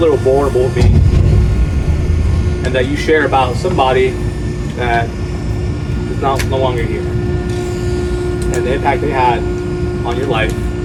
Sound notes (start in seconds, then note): none